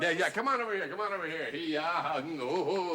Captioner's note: laughs mockingly